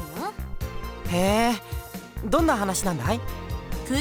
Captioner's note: interested hum